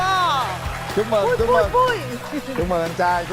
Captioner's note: clap hands